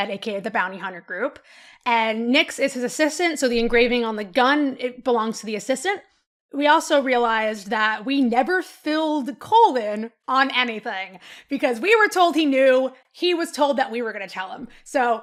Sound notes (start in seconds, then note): none